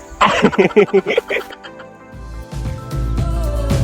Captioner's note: laughs